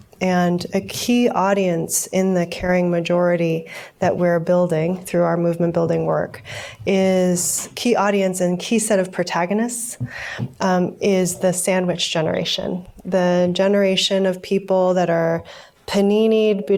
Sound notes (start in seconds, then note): none